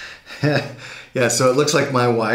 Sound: laughs loudly

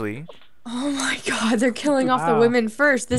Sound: voiceover

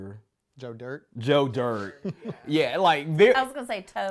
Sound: chuckles

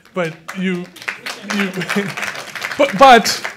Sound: applause

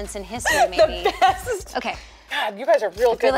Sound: laughter

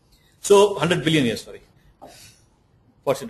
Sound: chuckle

